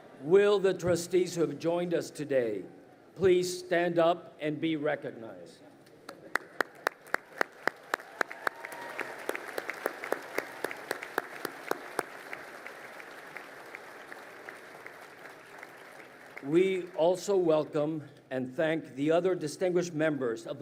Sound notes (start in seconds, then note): 6.5 crowd applauding